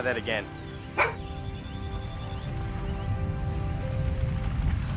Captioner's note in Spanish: BRUNO Ladra